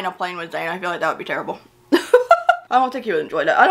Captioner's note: laughs